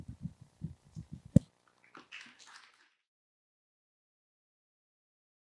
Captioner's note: applause